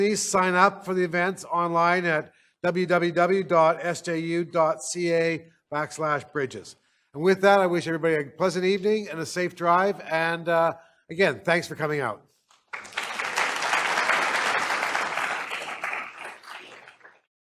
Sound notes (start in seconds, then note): 12.6 applause